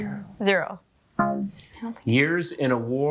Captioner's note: womp chimes